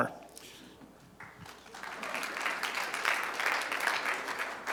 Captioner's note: applause